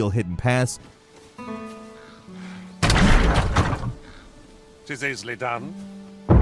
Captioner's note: tranquil ambient music; catapult slings